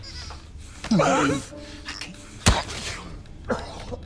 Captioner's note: choking; coughing